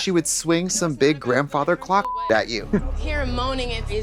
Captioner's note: beep